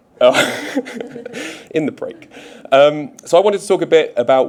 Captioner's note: chuckles